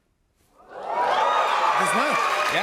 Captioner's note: cheers and applause